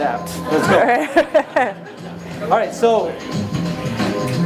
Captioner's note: audience laughs